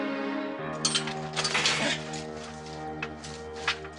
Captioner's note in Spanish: Ruido al abrir la reja